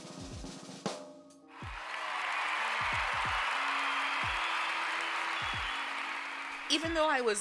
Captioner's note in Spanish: Redoble de tambores; Aplausos